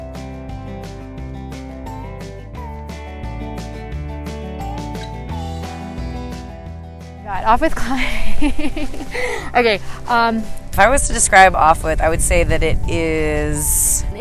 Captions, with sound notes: (bright twangy music) - God, offwidth climbing. (laughs) Okay, um... - If I was to describe offwidth, I would say that it is...